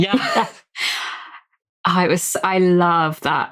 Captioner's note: laughing